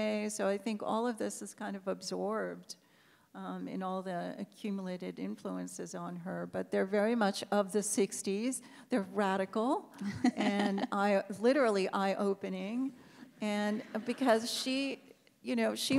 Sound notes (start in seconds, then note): 10.0 laughs; 13.6 audience laughs